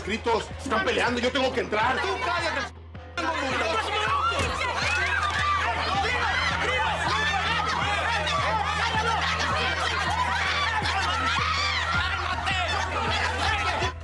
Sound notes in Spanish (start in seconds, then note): 3.2 Gritos y exclamaciones